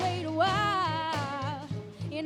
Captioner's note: none